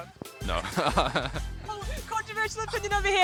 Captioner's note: laughs